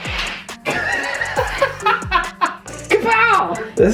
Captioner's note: laughing